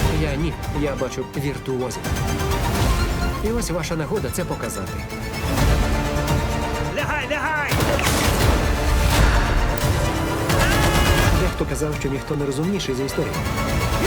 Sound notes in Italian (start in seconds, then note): 6.9 uomo 3 grida; 9.4 colpi ripetuti